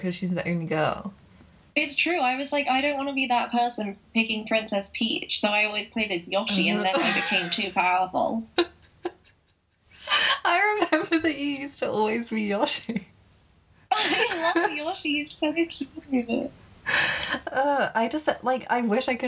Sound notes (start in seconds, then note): 9.4 laughing